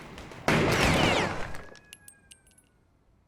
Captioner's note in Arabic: إطلاق نار